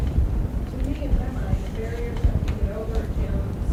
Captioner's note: voiceover